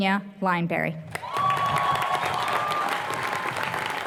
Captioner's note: applause